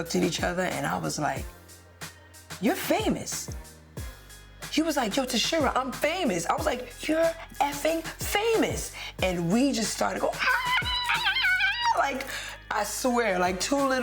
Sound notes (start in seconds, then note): 10.4 screaming